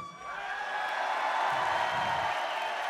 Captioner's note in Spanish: Vítores y aplausos